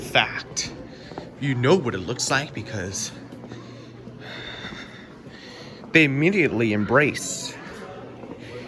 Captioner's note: exhales